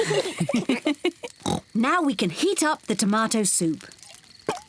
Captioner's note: all laugh; oinks